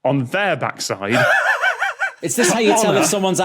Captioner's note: wheezes